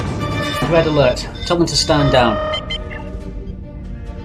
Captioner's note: klaxon